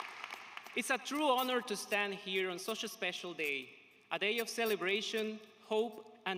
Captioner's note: applause